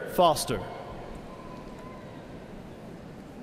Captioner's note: cheers and applause